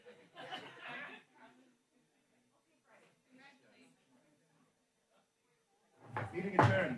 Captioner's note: background chatter